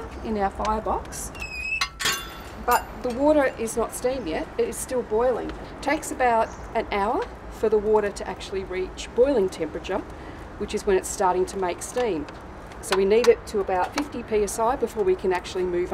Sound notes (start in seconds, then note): none